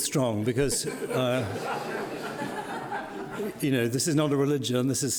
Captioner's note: audience laughing